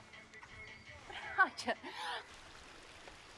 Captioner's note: laughs